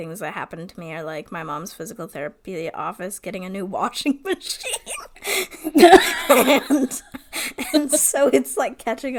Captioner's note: laughing